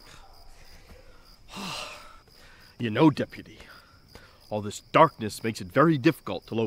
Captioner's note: sighing